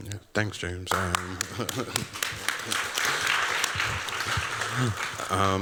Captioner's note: applause